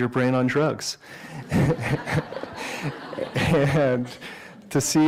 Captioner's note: laughter